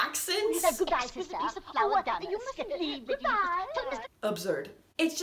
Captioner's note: ridiculous faux-British/trans-Atlantic accents overlapping